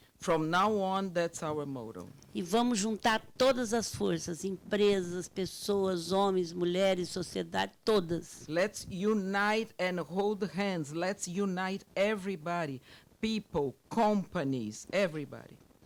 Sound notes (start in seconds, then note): 0.0 speaking Portuguese; 2.5 speaking Portuguese